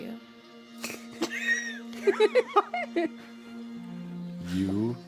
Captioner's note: laughter